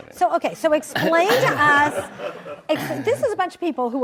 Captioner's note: audience laughs